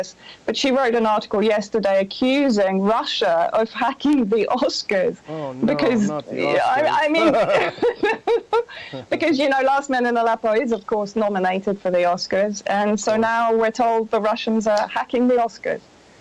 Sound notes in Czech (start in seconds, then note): 5.2 nevěřícný smích